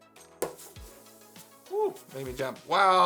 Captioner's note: small popping noise